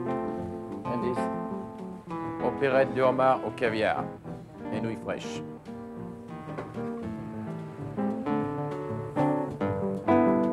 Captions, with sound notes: And this is (speaks foreign language) (lively music)